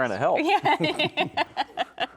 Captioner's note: laughing